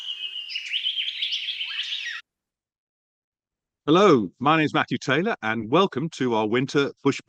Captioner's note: birds twittering and other bush sounds